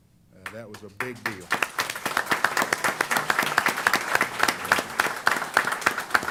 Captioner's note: applause